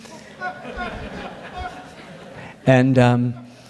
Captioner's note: audience laughs